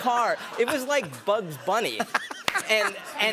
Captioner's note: laughter